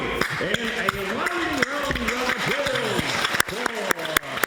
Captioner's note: applause